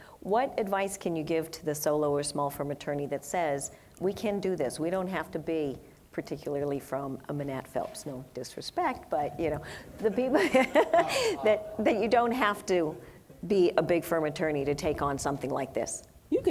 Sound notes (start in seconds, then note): 9.9 laughs